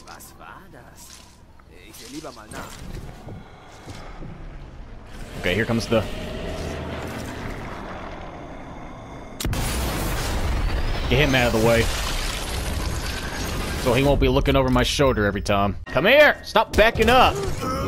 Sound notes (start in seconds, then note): 6.7 airplane; 8.1 slow breathing